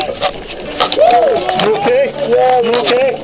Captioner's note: groans; excited exclaiming